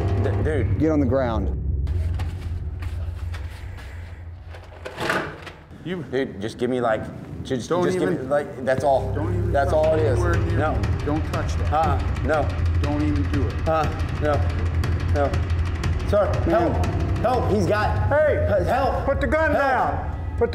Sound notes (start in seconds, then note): 2.0 paper towel crinkling; 4.9 dispenser clicks